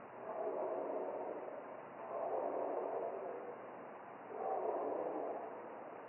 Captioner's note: creature continues barking